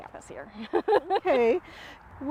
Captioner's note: laughs